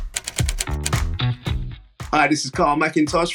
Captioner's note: machine typing